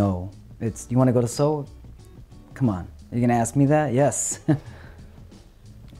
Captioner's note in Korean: 웃음